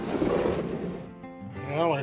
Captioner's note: drawer scratching